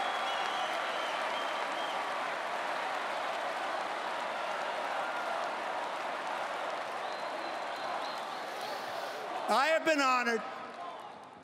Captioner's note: cheering and Applause